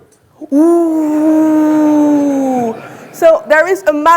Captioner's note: audience laughing